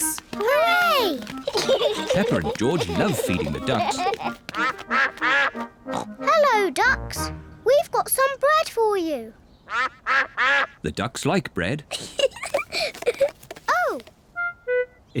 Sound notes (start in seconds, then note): 4.5 all quack; 9.6 quacking; 11.9 giggles